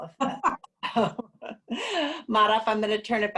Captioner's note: laughing